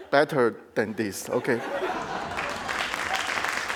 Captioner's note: crowd laughing; crowd applauding